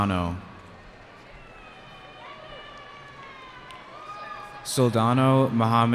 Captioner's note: cheering